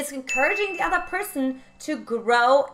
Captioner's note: bell dinging